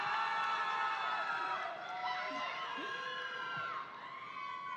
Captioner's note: audience cheering